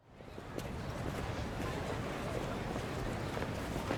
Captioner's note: bustling city